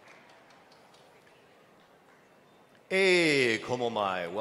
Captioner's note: speaking hawaiian